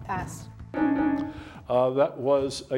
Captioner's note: bell dings